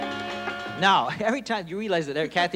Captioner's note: laughs